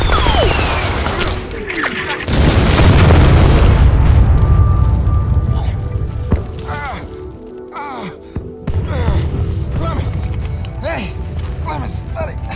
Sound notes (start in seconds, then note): 0.0 gunshot blasts; 0.0 bullets whizzing; 1.8 explosion blasts; 1.8 men grunt; 5.7 Stephen grunting